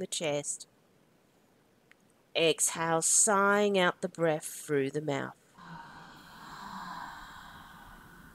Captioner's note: sighs